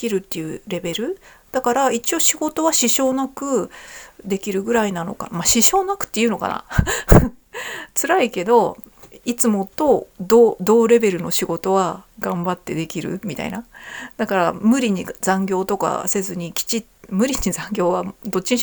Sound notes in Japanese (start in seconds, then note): 6.8 笑い